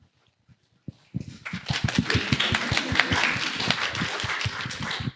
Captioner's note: applause